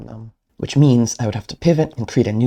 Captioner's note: voiceover